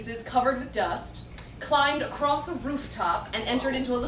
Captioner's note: none